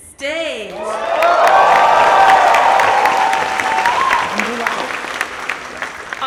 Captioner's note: audience applauds and cheers